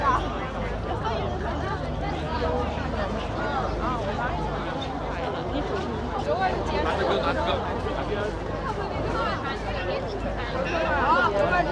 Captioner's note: people chattering